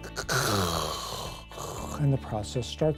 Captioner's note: snoring noises